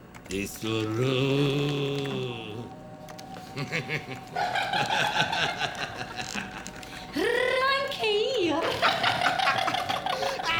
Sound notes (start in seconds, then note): 3.3 Dumbora and Root laughing; 8.1 more laughter